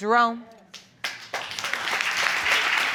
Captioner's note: applause